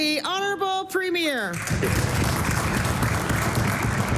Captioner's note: applause